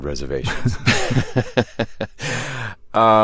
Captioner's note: laughter